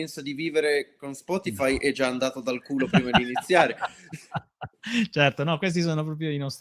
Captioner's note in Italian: risate